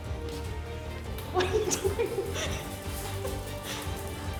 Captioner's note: laughs